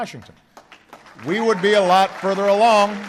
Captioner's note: applause